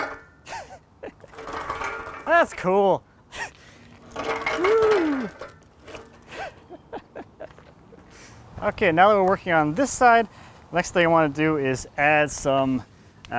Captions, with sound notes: (laughs) That's cool. (laughs) Okay. Now we're working on this side. The next thing you want to do is add some